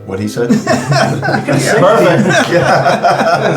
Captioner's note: all laughing